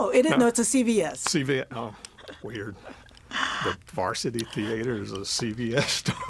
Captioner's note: laughing